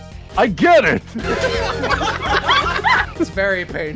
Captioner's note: laughter